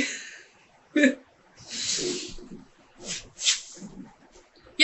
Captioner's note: laughing